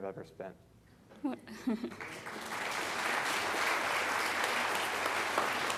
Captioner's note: audience laughing